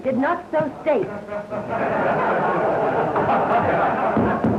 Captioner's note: audience laughs